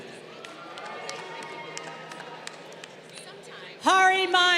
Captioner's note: crowd applauding